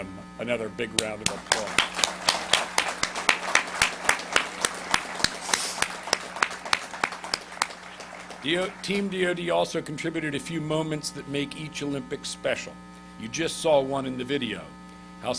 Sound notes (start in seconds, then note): 1.2 audience applauds